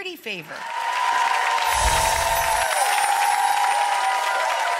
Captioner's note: applause